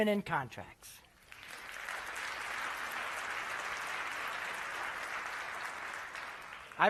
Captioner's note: applause